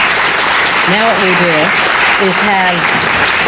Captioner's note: applause